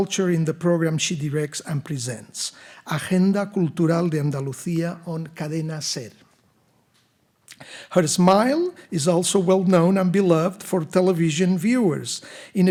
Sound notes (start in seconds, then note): 2.9 speaking in Spanish